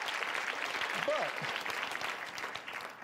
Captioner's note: applause